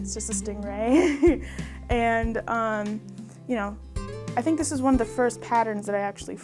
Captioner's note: chuckles